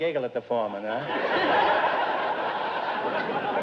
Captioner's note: audience laughter